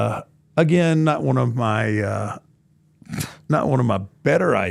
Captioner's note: scoffs